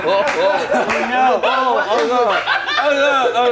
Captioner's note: laughs